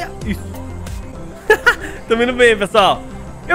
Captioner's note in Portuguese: risos